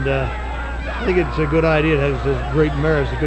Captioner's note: wrestler shouting